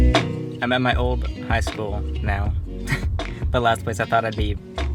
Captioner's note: relaxing lofi music; chuckles